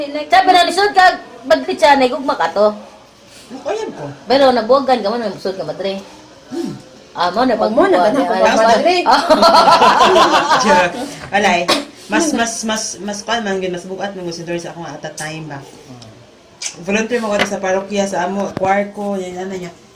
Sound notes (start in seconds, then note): 9.0 laughing